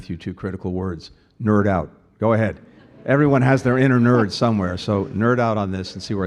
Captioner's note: laughter